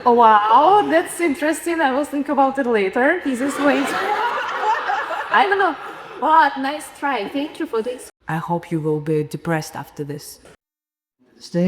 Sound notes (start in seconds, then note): 3.3 audience laughing